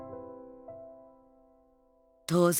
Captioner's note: silence